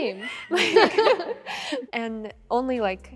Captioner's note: all laughing